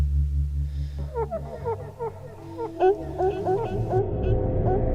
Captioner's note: voices distorting